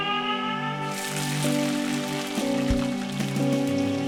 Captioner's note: sizzling